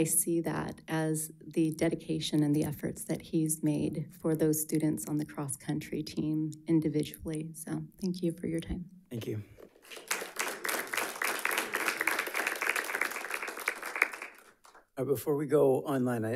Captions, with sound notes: really I see that as the dedication and the efforts that he's made for those students on the cross country team individually. So thank you for your time. - Thank you. (audience applauding) Before we go online,